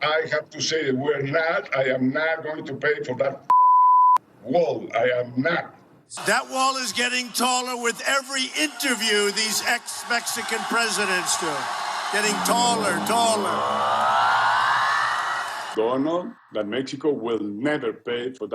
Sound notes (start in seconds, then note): 4.2 beeping; 12.1 electronic music